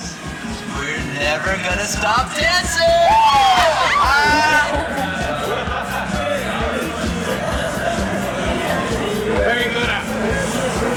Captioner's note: cheers